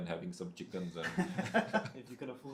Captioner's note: हंसी